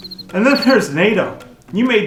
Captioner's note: crickets chirping